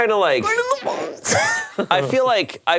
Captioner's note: laughs